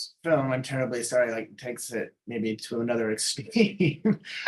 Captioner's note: laughing